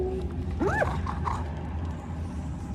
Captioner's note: soft hoot